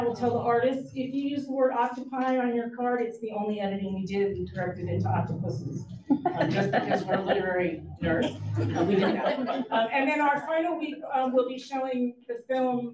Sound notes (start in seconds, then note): 6.1 audience chuckles